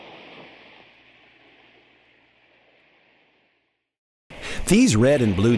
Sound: sound effect

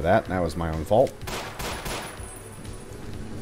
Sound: pew pew pew

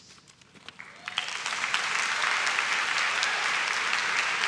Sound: claps

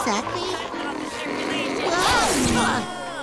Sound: grunting

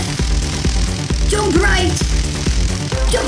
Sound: crackling electricity

